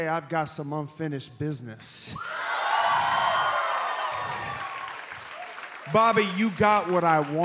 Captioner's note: cheers and applause